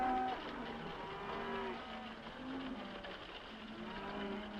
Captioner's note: horse hooves clopping; cows mooing; horse hooves clopping